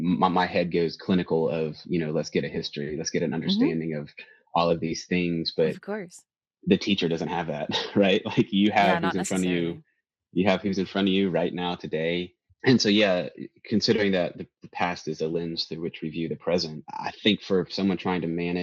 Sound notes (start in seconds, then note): 6.7 chuckles